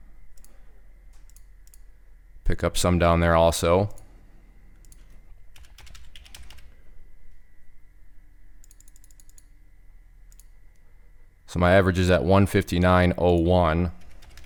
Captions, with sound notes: Pick up some down there also. (typing) So my average is at 159.01.